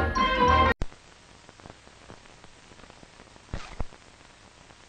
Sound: old film static

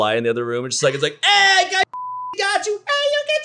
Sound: beep

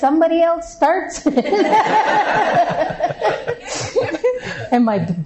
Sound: laughter

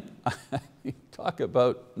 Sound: chuckles

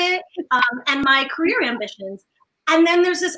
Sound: chuckles

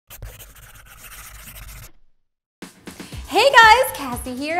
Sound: logo scribbling

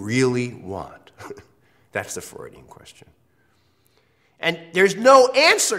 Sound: laugh

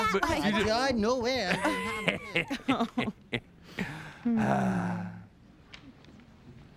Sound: both chuckle, then sigh

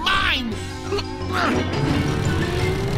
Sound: grunting

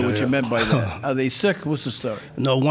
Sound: laughs

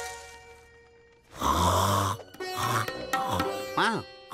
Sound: snoring

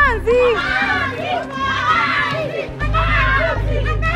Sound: crowd

